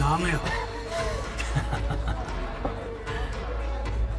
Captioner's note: both laughing